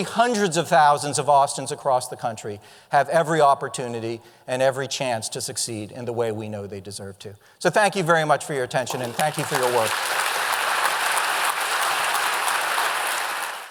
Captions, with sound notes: hundreds of thousands of Austin's across the country, have every opportunity and every chance to succeed in the way we know they deserve to. So thank you very much for your attention and thank you for your work. (audience applause)